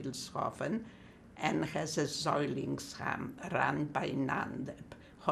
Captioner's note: german